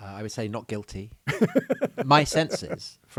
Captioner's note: laughing